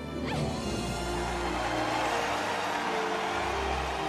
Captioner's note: crowd cheering